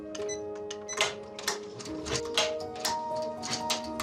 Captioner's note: machine beeps and clacks